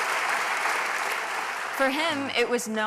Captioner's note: applause